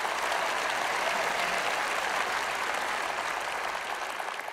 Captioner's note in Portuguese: plateia aplaudindo